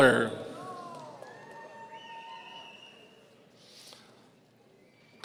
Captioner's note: audience cheering